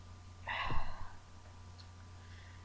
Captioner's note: sigh